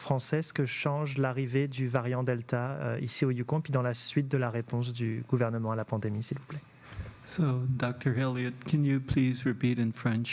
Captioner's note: speaking French